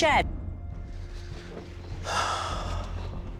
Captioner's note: sighs